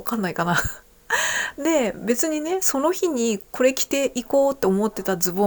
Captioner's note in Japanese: 笑い